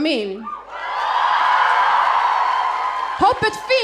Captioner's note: audience cheering